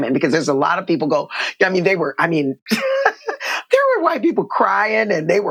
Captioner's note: laughter